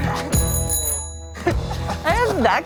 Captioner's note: bell ringing